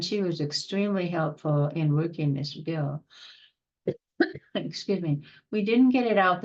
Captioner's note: coughing